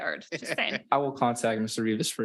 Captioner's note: participants laughing